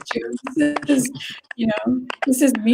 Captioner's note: laughs